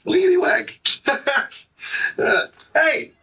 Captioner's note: laughing